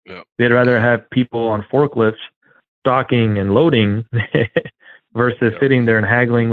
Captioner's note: laughs